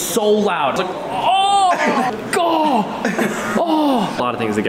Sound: painful moans

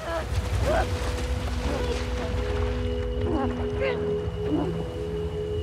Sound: soft music; gasps

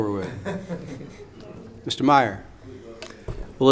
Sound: laughing

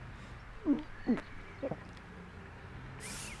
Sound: suppressed retching

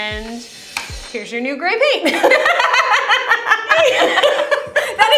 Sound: laughter

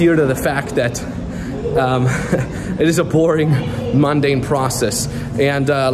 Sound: chuckles

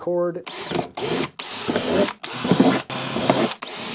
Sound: drill whirring

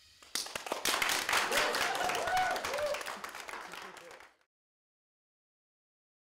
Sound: clapping/Cheering

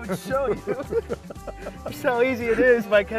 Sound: laughter

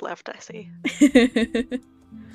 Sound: laughs

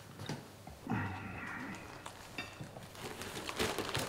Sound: dishes rattle

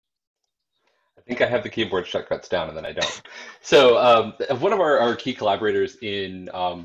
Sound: laughter

